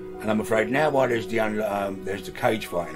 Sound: none

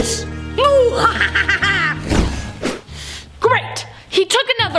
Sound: laughing

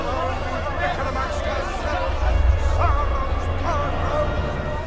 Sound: voices distort and fade away

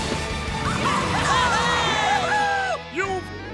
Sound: cheering

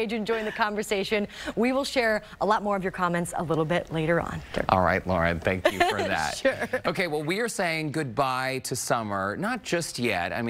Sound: laughter

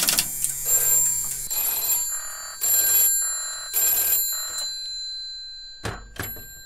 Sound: mechanical equipment noises; phone rings

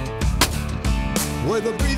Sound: gun shot

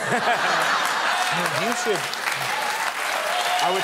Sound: laughter; cheers and applause

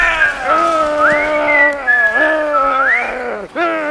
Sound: carefree whistling

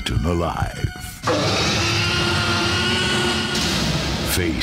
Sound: T-Rex roars

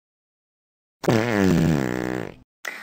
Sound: farts

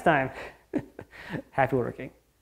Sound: laughing

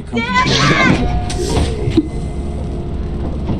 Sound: hydraulic door opening; footsteps on metal

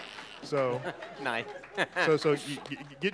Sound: laughter

